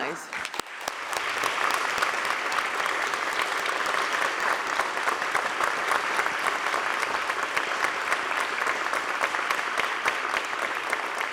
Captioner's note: applause